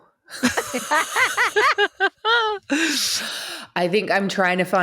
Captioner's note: all laugh